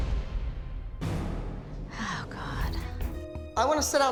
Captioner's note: sighing